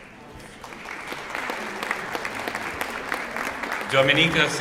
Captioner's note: applause